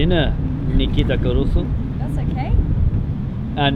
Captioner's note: speaks foreign language